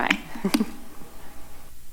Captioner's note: chuckles